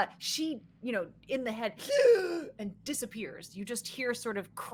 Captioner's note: gasps